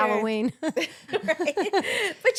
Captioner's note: laughing